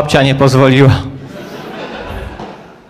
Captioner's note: laugh